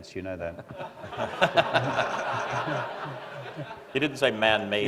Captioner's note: laughter